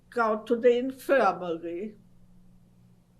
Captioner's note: pauses for 3 seconds